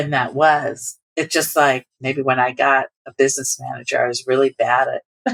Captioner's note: laughter